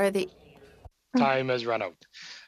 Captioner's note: speaking French